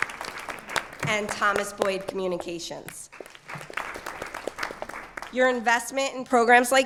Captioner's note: clapping